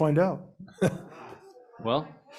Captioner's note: laughs